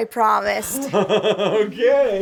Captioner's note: Butch chuckles